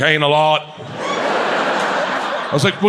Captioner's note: audience laughs